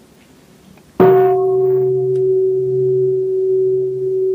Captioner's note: bell